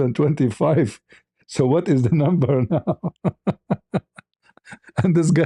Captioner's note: ketawa